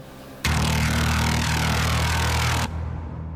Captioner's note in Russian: неприятный, гнетущий звук